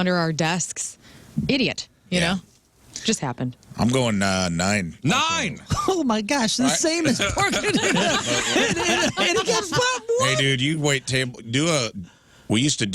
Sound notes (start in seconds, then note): 8.5 laughing